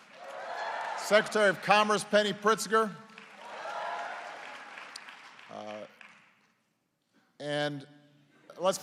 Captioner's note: applause